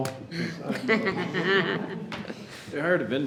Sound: chuckling

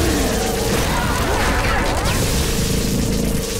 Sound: grunting

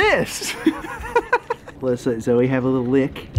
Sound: laughing

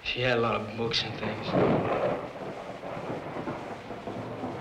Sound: thunder

